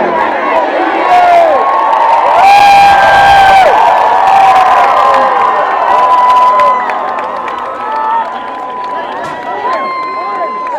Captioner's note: cheering